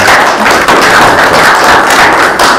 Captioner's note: applause